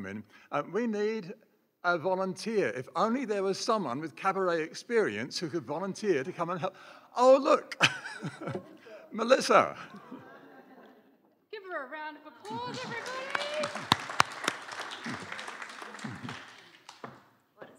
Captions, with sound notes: We need a volunteer, if only there was someone with cabaret experience who could volunteer to come and h... oh look (laughs), Melissa. Give her a round of applause everybody! [applause]